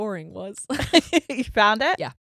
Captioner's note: laughing